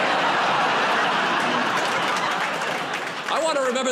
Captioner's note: laughter